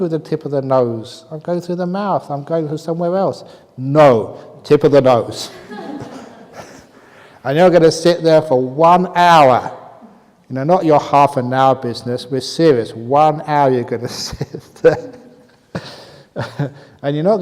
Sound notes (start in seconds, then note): 5.4 laughter; 14.1 laughs